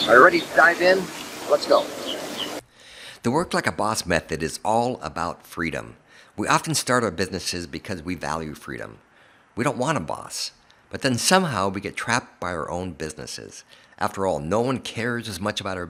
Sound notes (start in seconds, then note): 3.3 voiceover